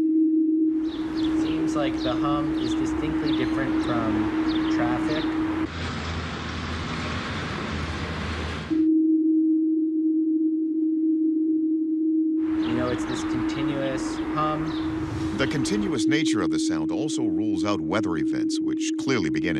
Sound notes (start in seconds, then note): 5.3 engine sound; 8.2 humming